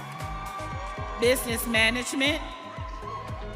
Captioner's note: audience cheering